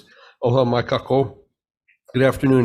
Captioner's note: speaking in foreign language